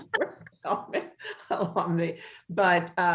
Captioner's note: laughter